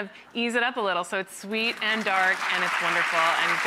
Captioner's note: audience claps